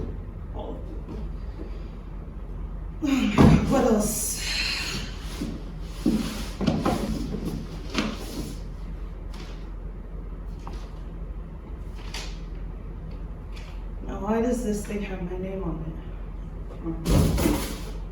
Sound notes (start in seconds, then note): 5.8 rustling